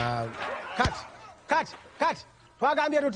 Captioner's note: actors grunting; speaks in Luganda